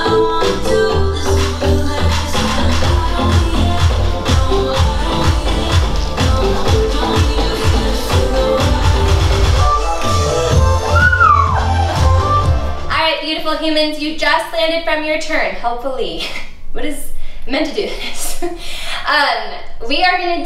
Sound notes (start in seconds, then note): 10.0 squealing; 19.5 chuckles